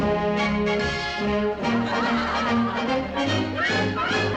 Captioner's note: onlookers laugh